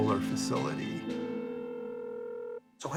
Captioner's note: phone ringing